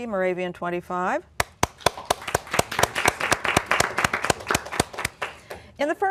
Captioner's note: applause